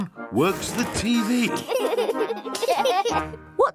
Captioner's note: laughter